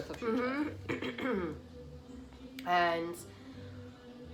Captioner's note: coughs